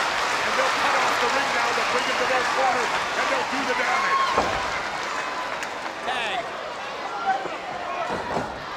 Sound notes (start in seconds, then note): 2.5 presenter speaking faintly off mic